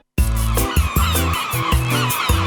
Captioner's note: birds chirping